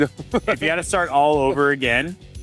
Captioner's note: laughing